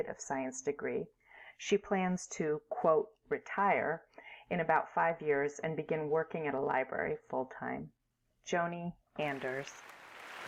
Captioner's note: applause